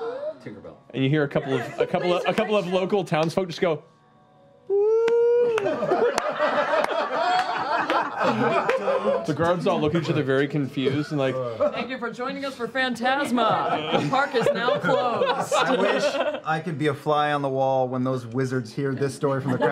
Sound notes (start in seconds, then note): 4.4 scattered applause and cheers; 5.5 laughter; 12.4 announcer voice